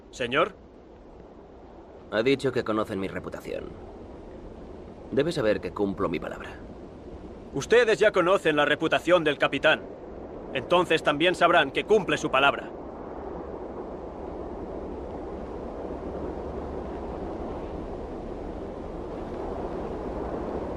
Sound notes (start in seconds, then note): 0.0 Victorio speaks Spanish; 7.6 Ramirez speaks Spanish